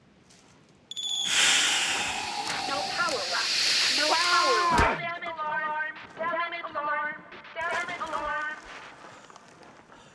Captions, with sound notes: (Whooshing) No power left. No power left. (Screaming) Damage alarm! Damage alarm! Damage alarm!